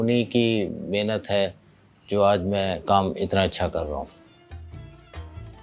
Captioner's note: speaking foreign language